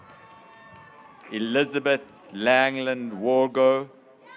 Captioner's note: graduates cheering